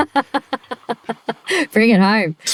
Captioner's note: laughing